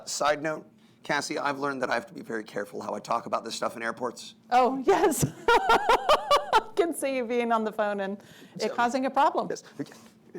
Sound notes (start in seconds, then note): 4.9 laughs